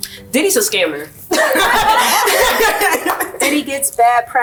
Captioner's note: laughing